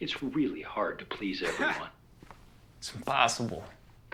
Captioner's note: Kent laughing